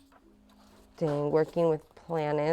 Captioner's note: pages rustling